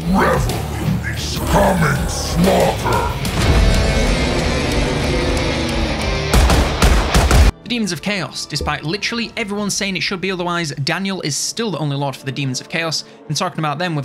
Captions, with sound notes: - Revel in this coming slaughter! (metal music) (guns banging) - The Demons of Chaos, despite literally everyone saying it should be otherwise, Daniel is still the only lord for the Demons of Chaos, and talking about them